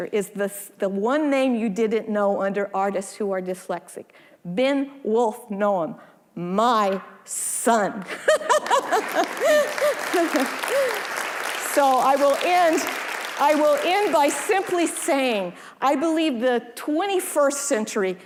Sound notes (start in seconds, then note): 8.0 laughing; 8.5 audience applauding